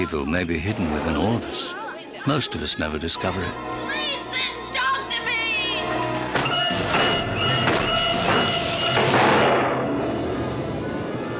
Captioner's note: door Creaks